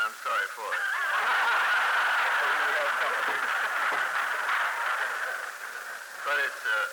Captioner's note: laughter, applause